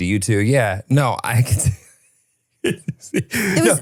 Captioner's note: laughs